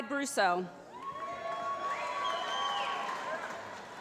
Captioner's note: cheering